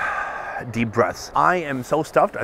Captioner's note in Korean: 깊은 숨